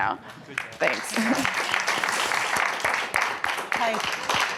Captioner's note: audience applauding